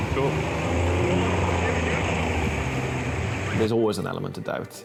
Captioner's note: engine revs